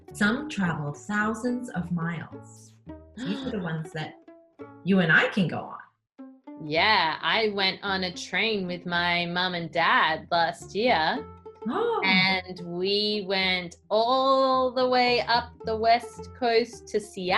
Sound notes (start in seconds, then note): 3.2 gasps